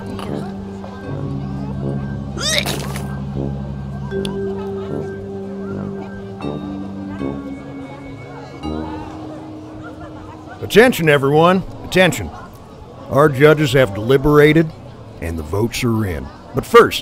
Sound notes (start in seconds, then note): 2.3 puking noise